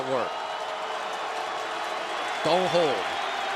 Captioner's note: cheering